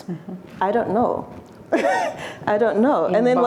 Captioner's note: laughs